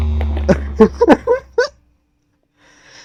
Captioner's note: laughing